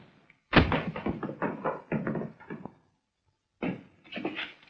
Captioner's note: trashcan clattering